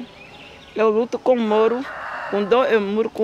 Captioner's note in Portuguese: galo cantando